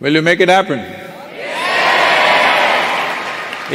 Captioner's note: cheering/Applause